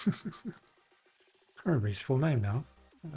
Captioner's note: laughs